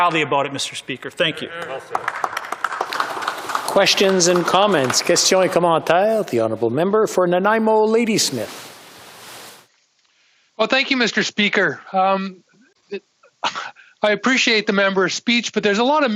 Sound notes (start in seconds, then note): 4.4 some Applause; 7.8 speaking French